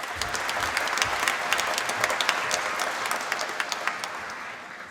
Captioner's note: applause